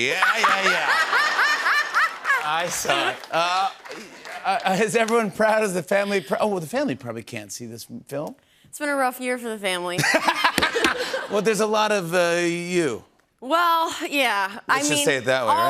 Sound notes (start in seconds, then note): 9.9 laughter